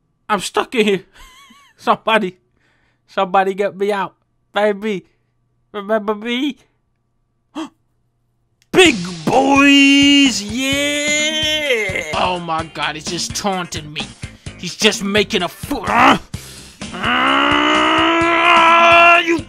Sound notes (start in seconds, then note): 7.5 gasps; 16.8 grunts